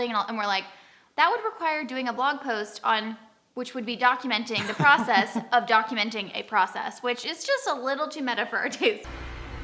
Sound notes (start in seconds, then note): 4.6 chuckles